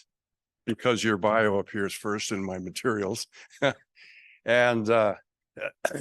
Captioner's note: chuckles